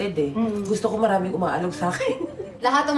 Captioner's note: chuckles